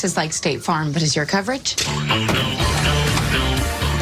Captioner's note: scoffs